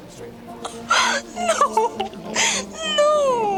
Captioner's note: gasps